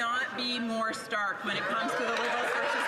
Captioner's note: some Applause